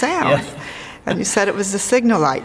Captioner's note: laughing